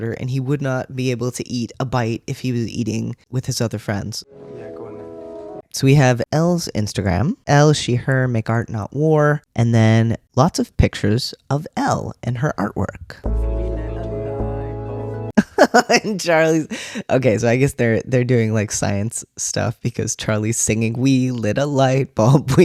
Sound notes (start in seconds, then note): 15.4 laugh